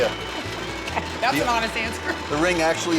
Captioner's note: laughs